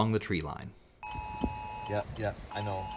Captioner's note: EAS tones